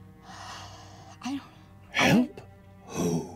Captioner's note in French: soupire